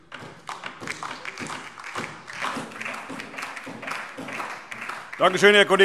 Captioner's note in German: Beifall DIE LINKE und SPD